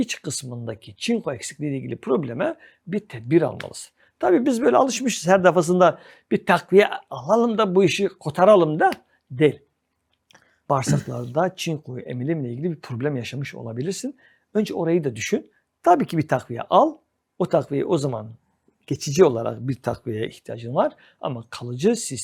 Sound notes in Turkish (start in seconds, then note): 10.8 boğazını temizler